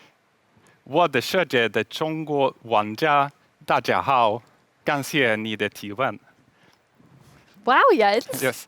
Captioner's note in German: nicht-englische rede